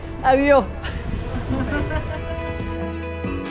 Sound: laughs

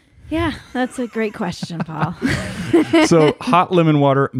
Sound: laughs

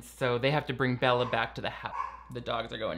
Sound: dogs barking

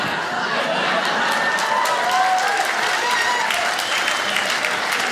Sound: applause

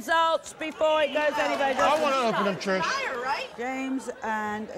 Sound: everyone yelling

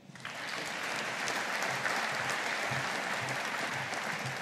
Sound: audience applauding

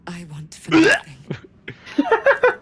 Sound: throws up

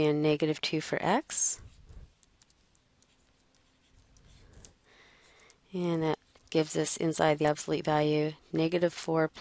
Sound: pause

